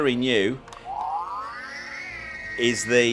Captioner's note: toy car siren blaring